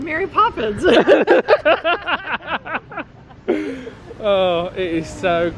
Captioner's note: both laughing